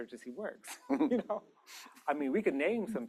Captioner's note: laughter